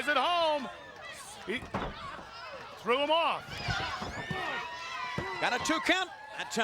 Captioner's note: Rey Jr thuds